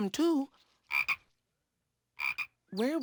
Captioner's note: frog croaks